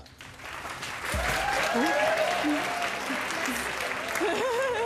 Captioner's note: cheering & applause; nervous laughter